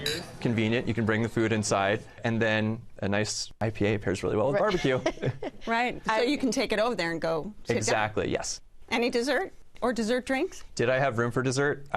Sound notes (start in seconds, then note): 4.6 laughs